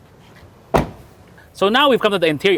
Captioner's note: door closes